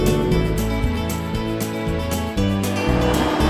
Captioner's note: boat motor; wind rustling; atv rumbling